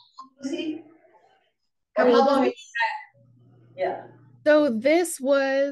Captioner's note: indistinct audience chatter